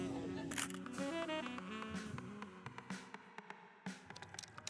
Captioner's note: camera shutters